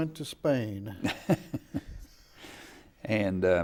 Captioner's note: laughing